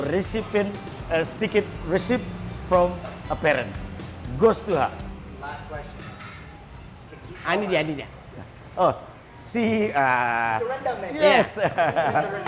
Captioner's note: everyone clapping